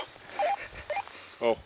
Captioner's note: radio beeps